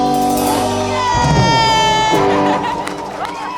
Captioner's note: audience claps and cheers